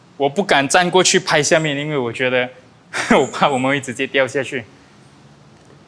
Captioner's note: laughs